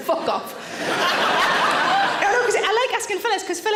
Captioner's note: audience laughing